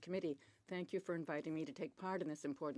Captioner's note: speaking French